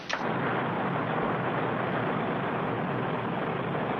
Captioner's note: boat rumbling